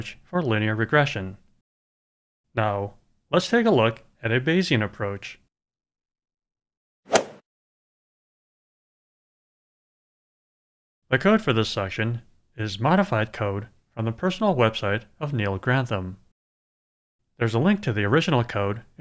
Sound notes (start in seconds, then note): 7.1 swoosh